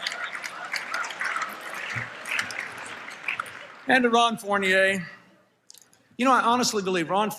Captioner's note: applause, Laughter